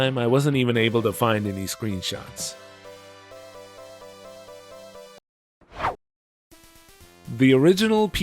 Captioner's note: whoosh